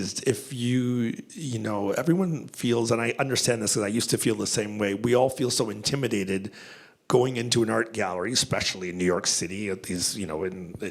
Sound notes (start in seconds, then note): none